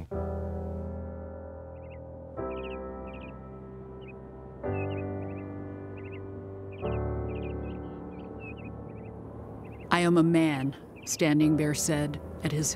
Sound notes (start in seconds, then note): 0.2 instrumental music; 1.6 birds